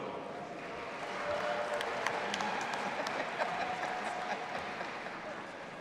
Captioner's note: audience applauding and cheering